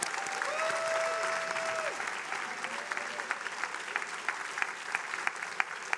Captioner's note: attendees applauding